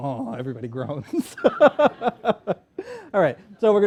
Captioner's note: laughter